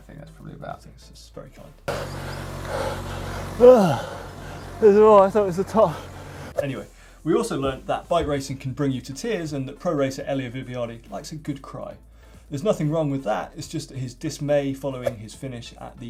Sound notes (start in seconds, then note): 2.6 panting and grunting